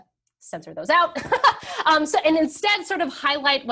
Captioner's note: laughs